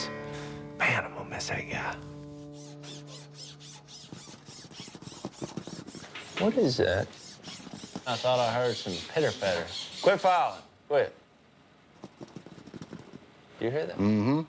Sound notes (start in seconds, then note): 2.4 file scraping; 4.2 rattling; 12.0 scurrying